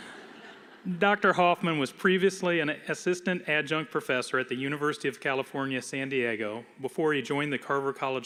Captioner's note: laughter